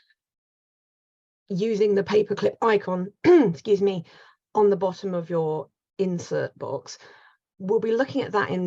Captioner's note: coughs